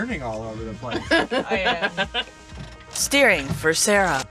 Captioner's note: laughs